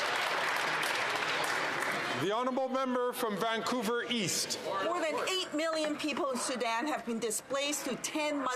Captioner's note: some Applause